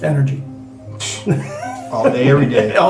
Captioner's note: all laughing